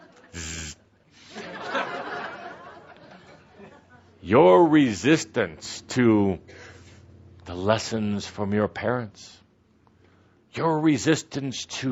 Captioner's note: laughter